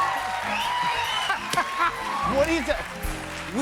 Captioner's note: laughter